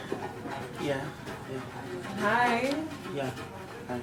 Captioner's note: none